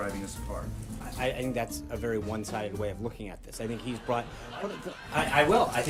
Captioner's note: raucous laugh track